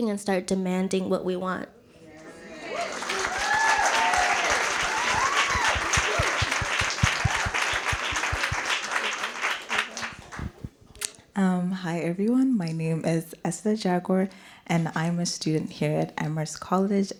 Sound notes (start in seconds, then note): 2.6 applause